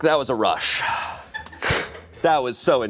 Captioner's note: exhales